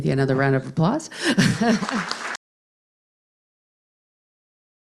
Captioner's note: applause